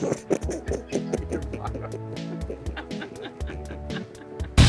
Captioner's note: people laughing